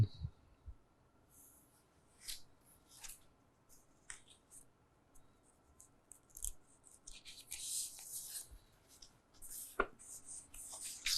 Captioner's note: pauses 23 seconds